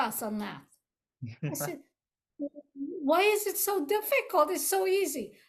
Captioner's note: laughs